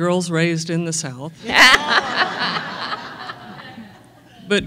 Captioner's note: laughter